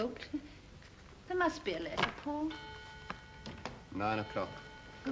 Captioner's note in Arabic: دقات الساعة